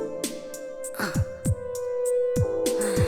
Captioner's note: sigh